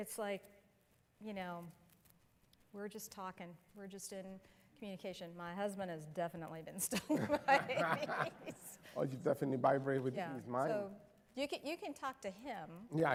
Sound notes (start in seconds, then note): 6.9 laughter